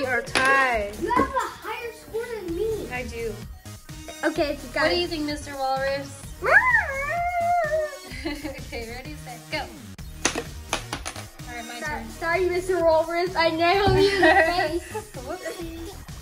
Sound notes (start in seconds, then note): 3.3 makes silly walrus noises, laughter; 15.3 giggles